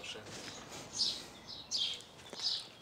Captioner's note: birds chirping